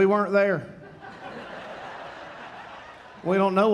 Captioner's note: audience laughing